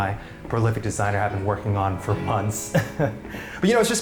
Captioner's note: laughs